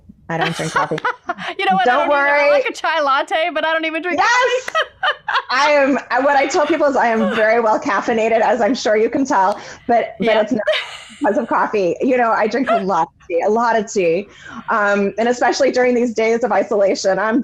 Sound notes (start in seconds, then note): 0.4 laughing; 5.2 laughing